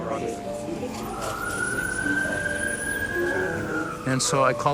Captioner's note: police sirens